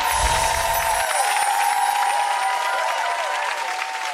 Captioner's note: cheering